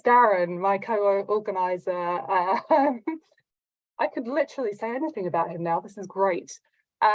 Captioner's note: laughs